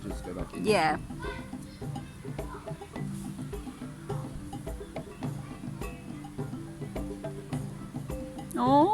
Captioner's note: birds chirping, people chattering